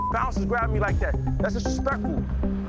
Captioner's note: beep